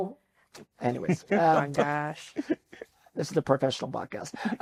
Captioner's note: laughing